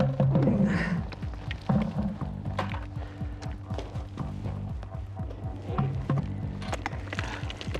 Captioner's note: grunting; digging, rocks falling